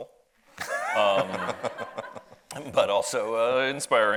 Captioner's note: audience laughs